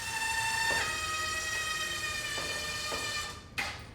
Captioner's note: tool drilling